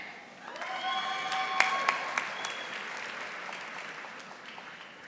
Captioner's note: audience applauding